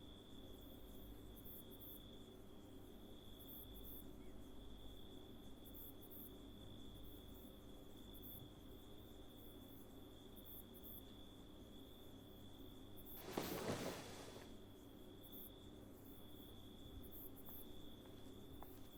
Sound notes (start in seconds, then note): 13.1 cloth rustles; 16.1 crickets chirp